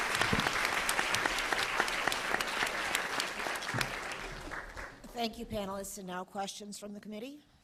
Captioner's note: applause